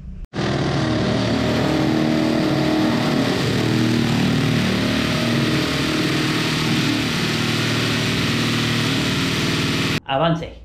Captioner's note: drill noise